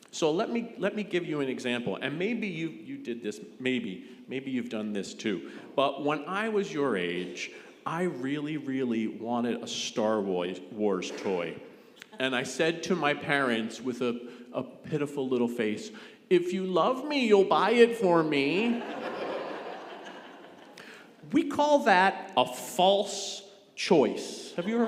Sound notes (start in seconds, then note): 18.5 congregation laughing